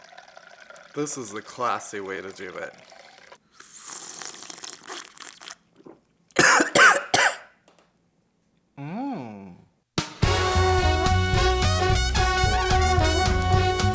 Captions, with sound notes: This is the classy way to do it. [annoying homosexual sipping] [dramatic gay coughing] Mmmm.